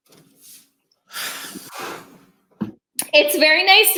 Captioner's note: sighing